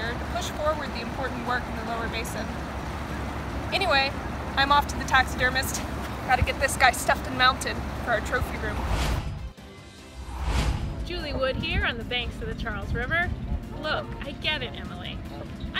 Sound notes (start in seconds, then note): 8.2 upbeat music; 10.0 logo whooshing